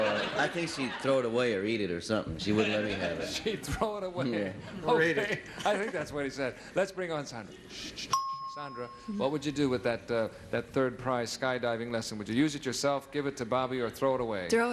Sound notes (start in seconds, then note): 8.1 ding